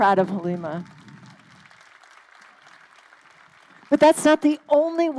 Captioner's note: crowd applauding